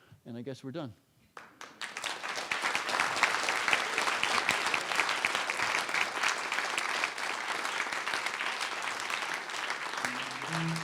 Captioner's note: applause; closing music